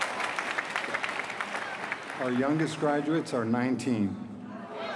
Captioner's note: applause